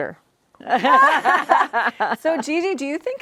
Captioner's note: all laughing